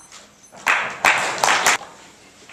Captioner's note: timer beeping - Clapping